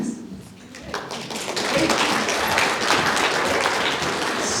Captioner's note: applause